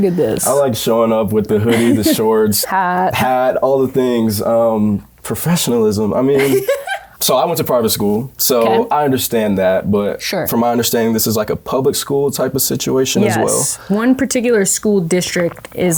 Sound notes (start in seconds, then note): 6.4 laughs